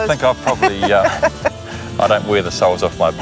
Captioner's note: laughing